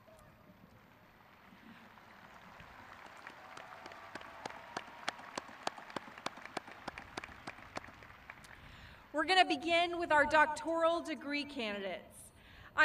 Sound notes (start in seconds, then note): 2.7 crowd cheering